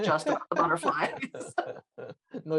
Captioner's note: laughter